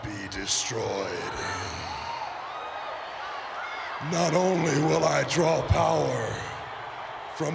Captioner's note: applause